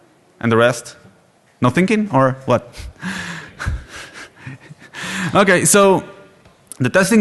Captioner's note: laughter